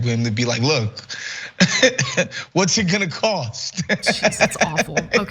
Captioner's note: laugh